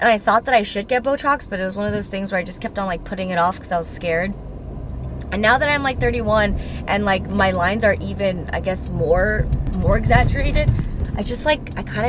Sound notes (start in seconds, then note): none